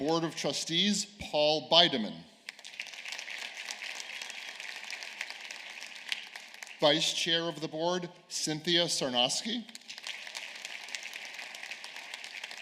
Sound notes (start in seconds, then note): 2.5 cheers and applause; 9.4 applause